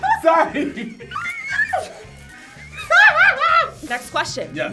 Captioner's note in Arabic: تصرخ